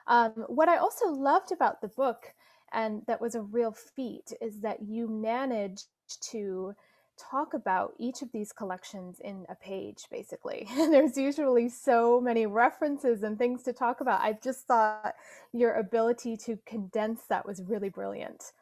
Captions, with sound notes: What I also loved about the book, and that was a real feat, is that you managed to talk about each of these collections in a page, basically. [Laughs] There's usually so many references and things to talk about. I just thought your ability to condense that was really brilliant.